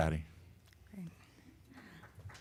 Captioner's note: applause